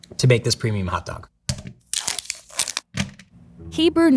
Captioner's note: plastic rustling; package thunks